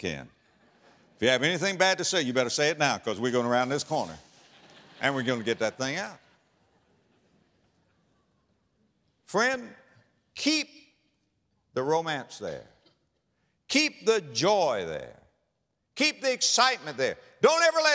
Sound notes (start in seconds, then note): 4.5 audience laughter